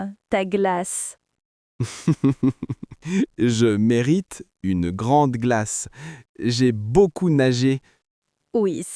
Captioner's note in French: rire